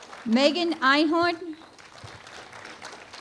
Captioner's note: applause